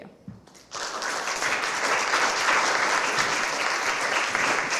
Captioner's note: applause